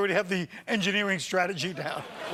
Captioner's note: laughter